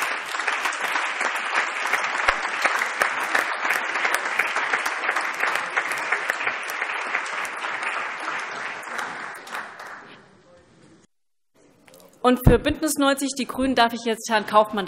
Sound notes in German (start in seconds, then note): 2.4 Allgemeiner Beifall